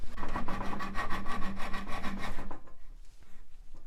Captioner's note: sawing